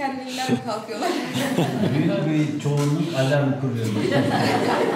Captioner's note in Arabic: بالتركية